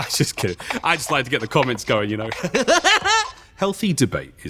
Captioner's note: cackles